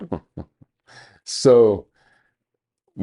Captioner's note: chuckling